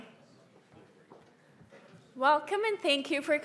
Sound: people chattering

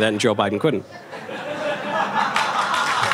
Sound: audience laughter; audience applause

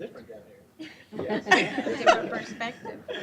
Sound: laughter

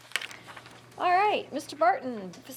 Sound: rustling

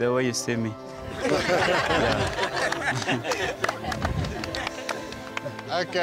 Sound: laughter

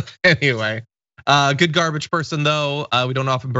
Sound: laugh

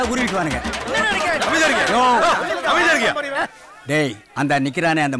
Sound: babble of voices

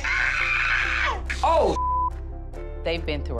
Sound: Yandy screaming; beep

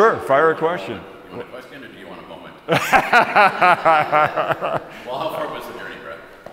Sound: everyone laughs

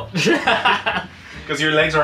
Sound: laughing

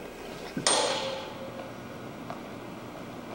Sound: loud clang; jumping sounds and birds chirping

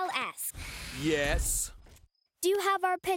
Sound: door slides open

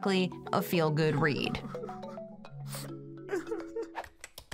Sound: person sobs, sniffles

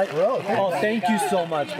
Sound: friends chattering

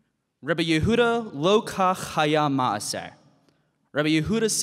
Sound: speaking in Hebrew

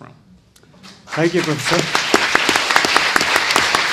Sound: audience applauds

